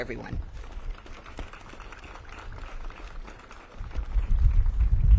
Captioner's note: audience claps